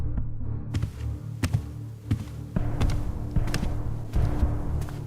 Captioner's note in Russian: шаги